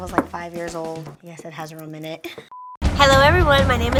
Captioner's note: beep